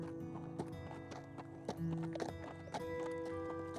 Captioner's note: horse hooves